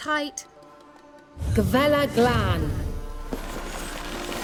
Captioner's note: recites incantation